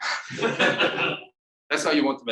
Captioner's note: audience laughing